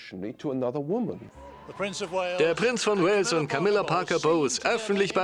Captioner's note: voiceover